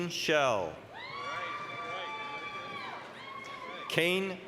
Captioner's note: applause, cheering